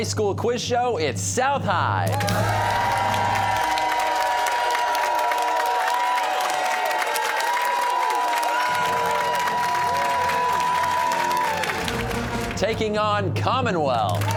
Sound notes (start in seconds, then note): 3.8 cheers and applause